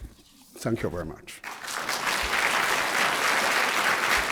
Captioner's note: applause